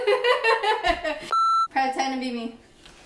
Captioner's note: laughs; beep